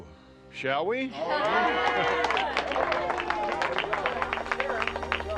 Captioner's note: group cheering